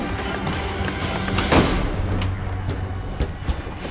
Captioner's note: slamming door; locking